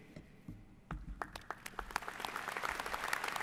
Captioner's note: applause